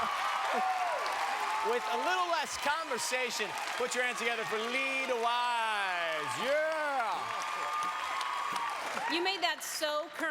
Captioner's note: cheers and applause